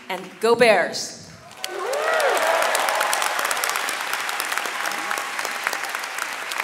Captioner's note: audience cheering and clapping